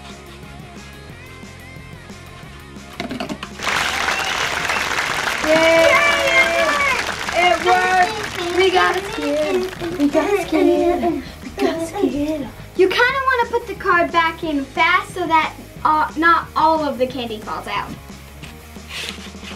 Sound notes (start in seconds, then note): 3.5 applause